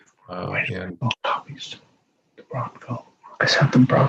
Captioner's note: mumbles